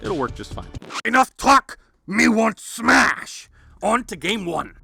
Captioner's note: record scratch